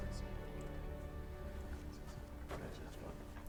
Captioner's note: Leon speaking faintly